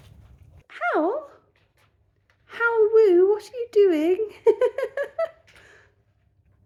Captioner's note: laughing